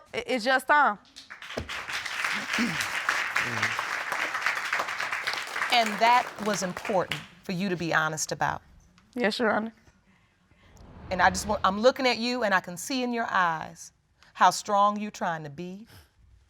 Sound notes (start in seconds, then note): 1.1 audience applauding; 2.4 clears throat